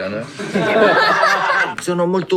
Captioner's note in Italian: risate